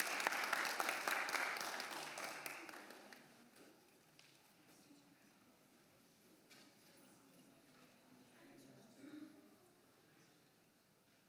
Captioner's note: applause